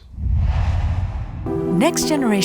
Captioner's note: logo swooshes; energetic music plays